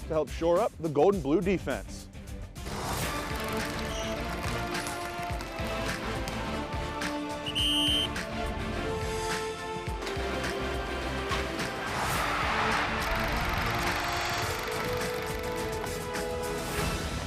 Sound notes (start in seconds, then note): 2.5 triumphant music; 7.4 whistle blowing; 8.7 triumphant music